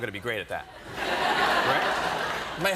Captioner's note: laughter